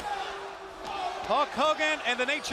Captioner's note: crowd cheering